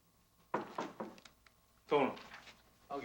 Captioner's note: door knocking